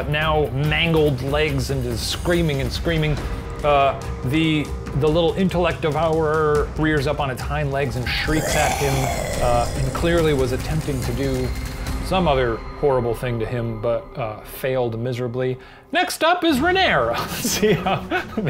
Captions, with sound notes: now mangled legs, and is screaming and screaming. The little intellect devourer rears up on its hind legs and shrieks at him, (low roar) and clearly was attempting to do some other horrible thing to him, but failed miserably. Next up is Renaer! (laughs)